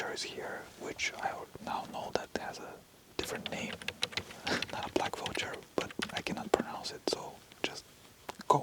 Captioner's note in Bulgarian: на английски